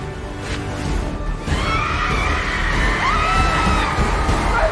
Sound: crowd cheering

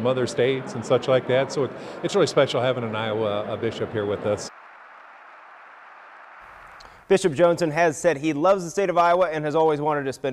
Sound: applause

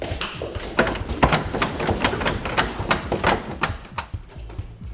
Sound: handle clicking

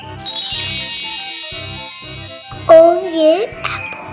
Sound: magic sound chimes

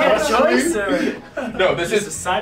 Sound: laugh

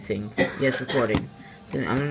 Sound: distant coughing

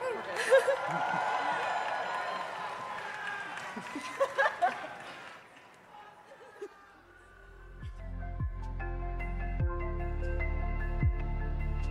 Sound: cheerin

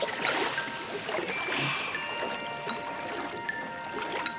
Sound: splashing

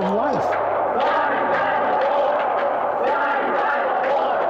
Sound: crowd chanting

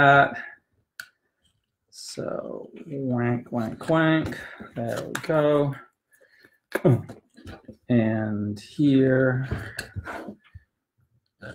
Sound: makes sound effect, quack quack quack

